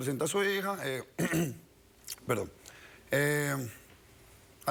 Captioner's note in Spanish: carraspea